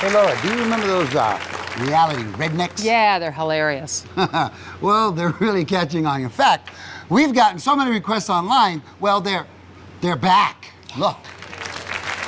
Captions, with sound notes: Hey Laura, do you remember those reality rednecks? - Yeah, they're hilarious. - (chuckles) Well, they're really catching on. In fact, we've gotten so many requests online, well, they're back, look.